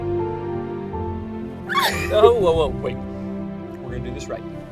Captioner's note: squeals